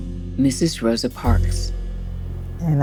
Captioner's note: soundbite of archived recording